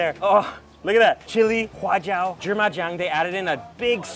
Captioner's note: speaks in a foreign language